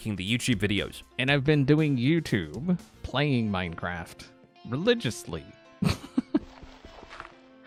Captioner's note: chuckles